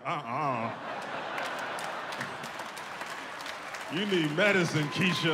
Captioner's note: audience laughs, claps